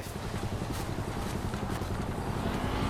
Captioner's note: engine idling